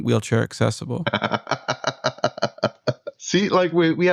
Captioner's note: laughter